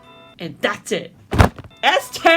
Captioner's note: slam